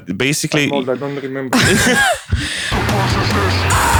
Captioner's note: laughter